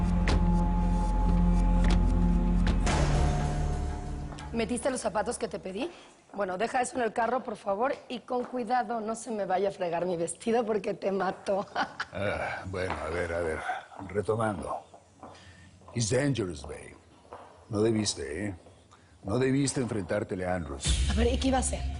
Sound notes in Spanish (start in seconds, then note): 11.5 Risas